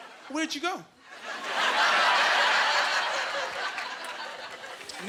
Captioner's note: laughing